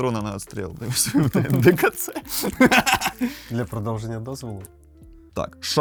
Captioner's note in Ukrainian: сміх